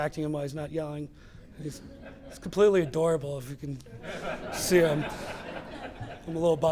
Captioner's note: laughter